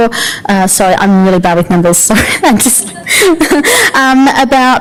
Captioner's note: laughter